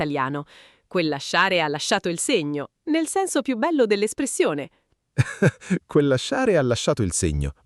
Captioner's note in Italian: risate